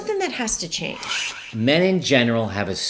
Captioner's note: whooshing